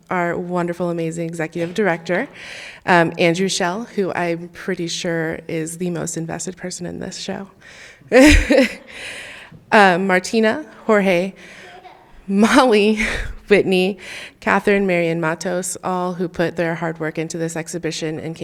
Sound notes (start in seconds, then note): 8.1 chuckling; 11.6 child giggling; 11.6 chuckling